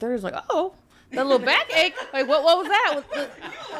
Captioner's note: podcasters laughing